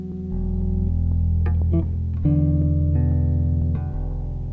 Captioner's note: low Droning